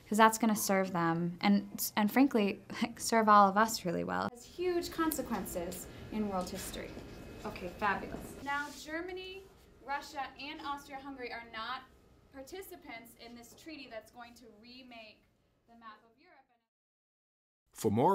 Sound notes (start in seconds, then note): 6.4 classroom discussion